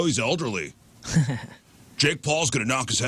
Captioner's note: laughter